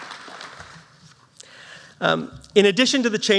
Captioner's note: applause